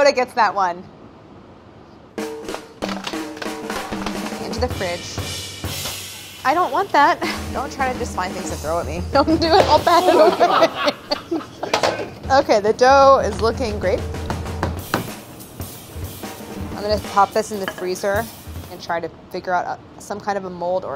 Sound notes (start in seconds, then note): 10.9 laughing